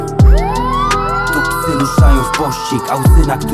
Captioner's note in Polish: syrena